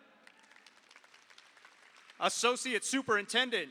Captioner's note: audience applauds